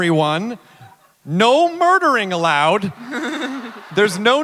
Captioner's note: laughter